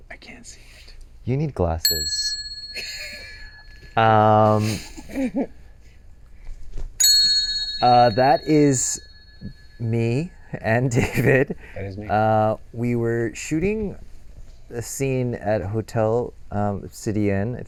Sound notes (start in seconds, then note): 7.0 ding